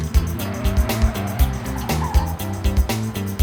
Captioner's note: screeching